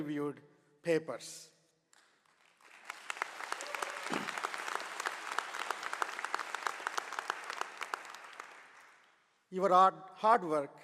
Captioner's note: applause